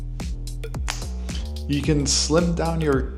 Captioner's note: fingers snapping